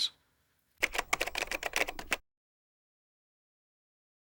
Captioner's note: typing